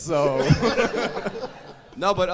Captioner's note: audience laughing